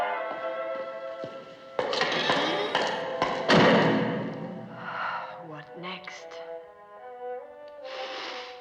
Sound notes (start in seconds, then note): 5.3 sighs